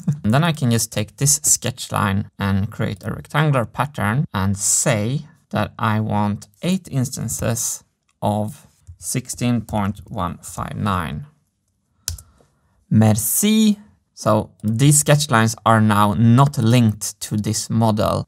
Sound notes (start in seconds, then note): 12.0 click; 12.6 French